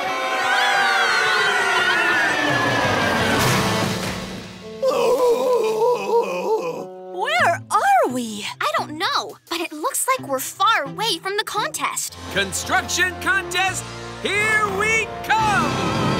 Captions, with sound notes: [screaming] [groaning] Where are we? I don't know, but it looks like we're far away from the contest. Construction contest, here we come!